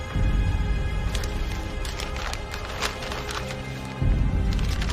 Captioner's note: paper rustling